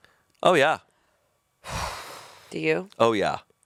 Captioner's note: sighs